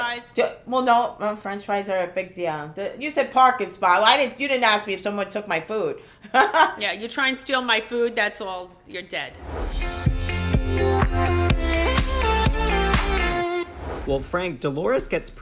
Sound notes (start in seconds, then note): 5.5 laughs; 9.4 pop music